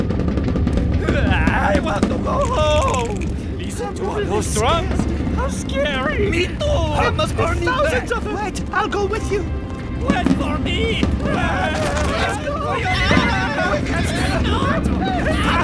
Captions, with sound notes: - I want to go home! (soldiers clamoring) - There must be thousands of them! - Wait, I'll go with you. - Wait for me! (soldiers yelling)